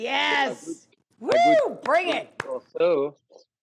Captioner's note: applauding